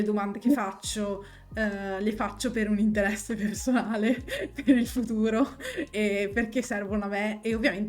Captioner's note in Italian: risate